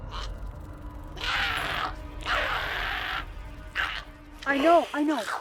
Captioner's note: Giree growling